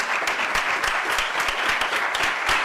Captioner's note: applause